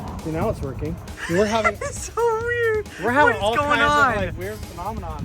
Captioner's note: hysterical Laughing